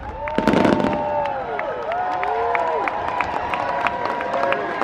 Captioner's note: crowd cheering and applauding